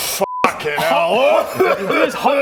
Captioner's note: chokes